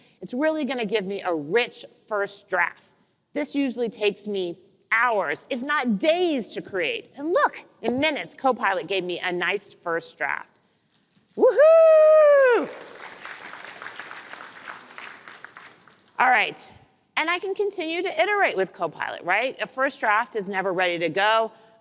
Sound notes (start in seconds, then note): 12.3 applause